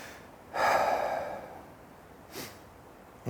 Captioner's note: final sigh